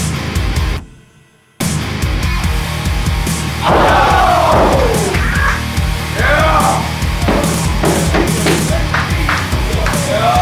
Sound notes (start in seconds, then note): 3.6 audience cheering; 9.5 rock music playing